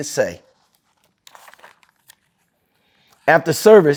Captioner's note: pages rustling